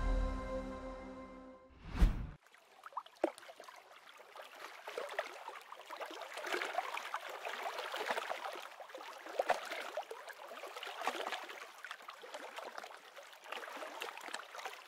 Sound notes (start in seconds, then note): 2.8 water rustling